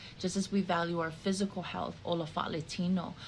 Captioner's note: speaking in the Samoan language